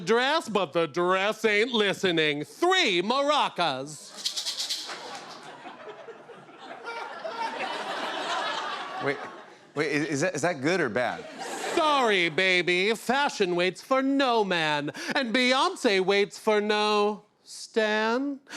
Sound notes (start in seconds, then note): 4.1 maracas shake; 6.6 laughter